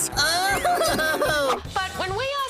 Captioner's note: wailing